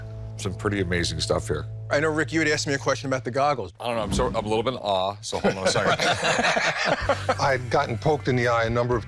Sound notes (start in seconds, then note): 5.3 all laugh